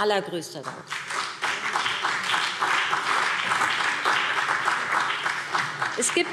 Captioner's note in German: Beifall BÜNDNIS 90/DIE GRÜNEN und CDU